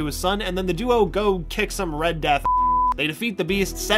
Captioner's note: beep